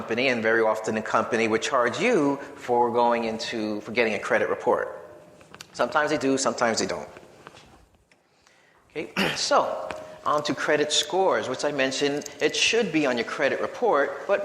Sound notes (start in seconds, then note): 9.1 clears throat